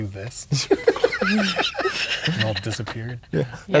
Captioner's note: players laughing; laughing